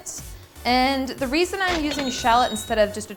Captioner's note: cash register chimes